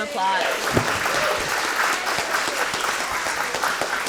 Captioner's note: audience clapping